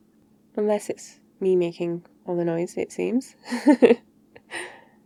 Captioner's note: laughs